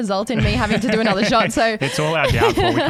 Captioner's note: laughing